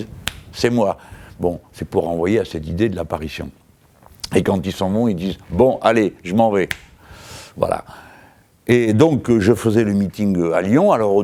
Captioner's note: snapping fingers; snap